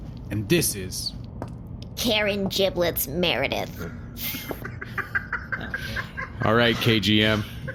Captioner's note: laughter